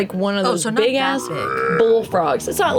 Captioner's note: low croak